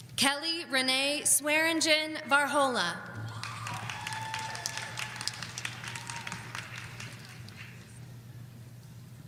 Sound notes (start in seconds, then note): 3.2 audience applauding